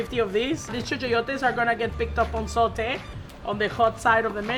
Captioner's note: speaks Spanish